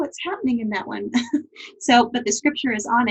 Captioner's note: giggles